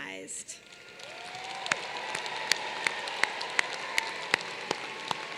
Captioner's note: applause